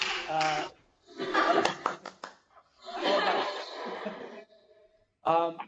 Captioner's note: clapping and laughing